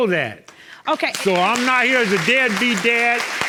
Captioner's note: audience clapping